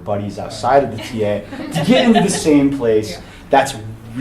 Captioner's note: attendees chuckling